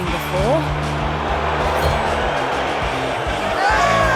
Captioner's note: crowd jeering